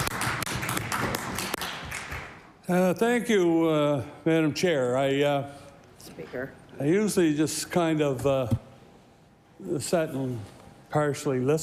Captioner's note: applause